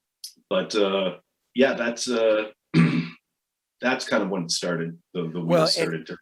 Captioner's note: clears throat